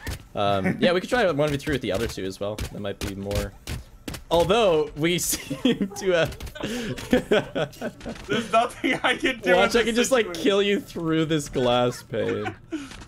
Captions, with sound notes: um yeah we could try one of three with the other two as well it might be more although we [laughing] - there's nothing I can do watch I can just like kill you through this glass pane